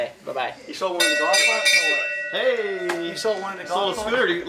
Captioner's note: bell ringing